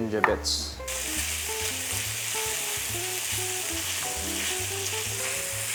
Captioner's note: sizzling sound